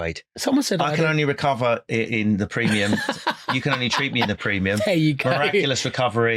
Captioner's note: laughing